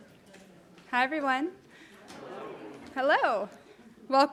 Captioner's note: audience responding